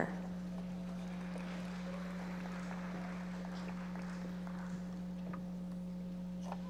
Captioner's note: audience members applauding